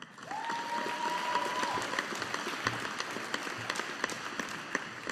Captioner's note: audience applauding